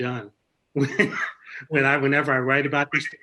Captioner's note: laughs